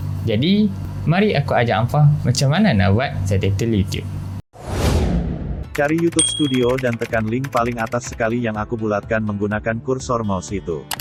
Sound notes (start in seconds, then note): 4.5 whoosh